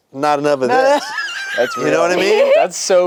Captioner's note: wheezes